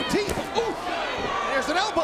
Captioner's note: skin slapping